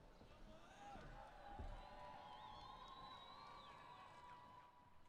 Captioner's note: cheering